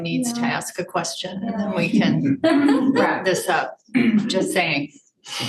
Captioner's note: audience member laughing